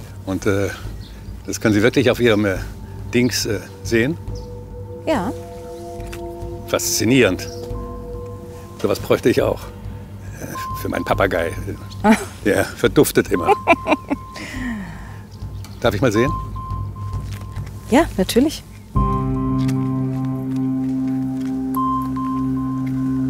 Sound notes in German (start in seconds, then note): 13.4 Sie kichert